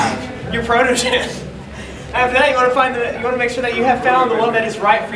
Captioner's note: laughing